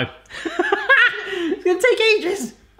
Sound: laughing

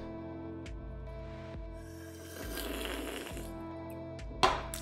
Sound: slurping

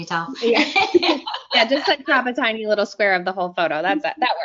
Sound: laughs

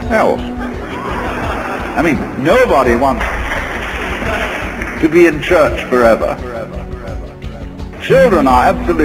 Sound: audience's laughs; claps from the audience

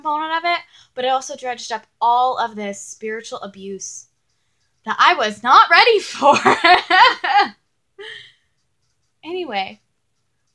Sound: laughs

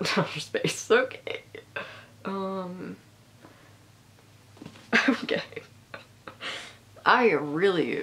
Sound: laughing

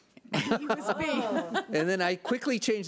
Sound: laughs

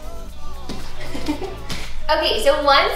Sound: laughs

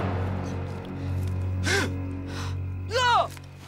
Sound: gasp

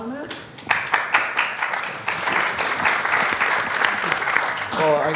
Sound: applause

